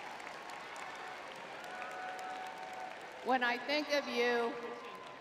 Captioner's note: crowd cheering